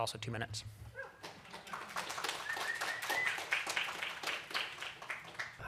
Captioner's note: applause